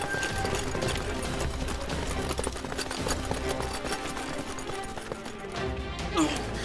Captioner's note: footsteps